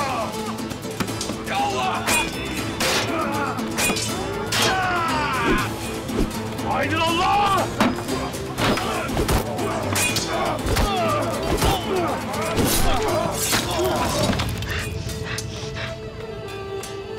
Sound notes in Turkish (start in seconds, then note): 14.4 Hızlı nefes alıp veriyor